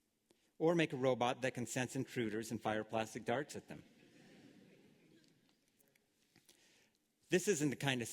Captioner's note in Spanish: Risas